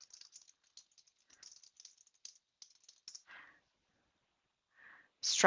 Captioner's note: typing